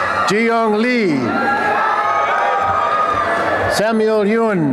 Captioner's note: applause and cheering; applause and cheering